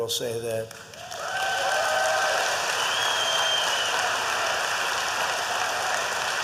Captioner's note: applause